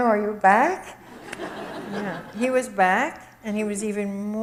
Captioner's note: audience laughs